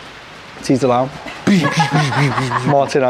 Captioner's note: groundbreaking sound effect